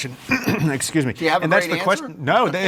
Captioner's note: clears throat